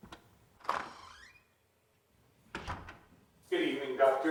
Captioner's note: door creaking